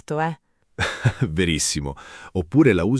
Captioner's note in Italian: Haha